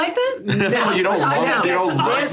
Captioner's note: laughs